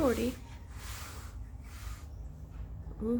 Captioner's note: hissssssss hisss